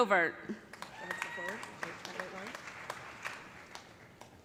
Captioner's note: cheers and applause